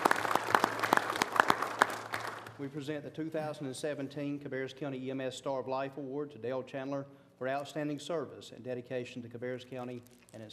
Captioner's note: applause